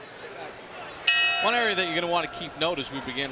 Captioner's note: bell dings